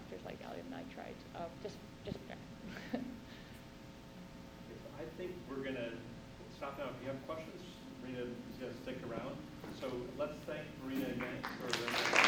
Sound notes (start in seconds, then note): 2.6 chuckle; 11.2 applause